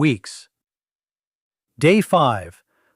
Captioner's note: pause